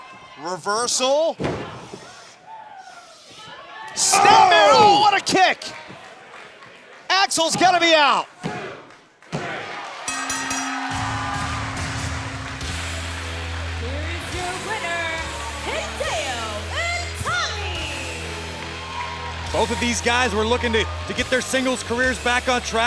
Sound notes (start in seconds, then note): 10.0 bell ringing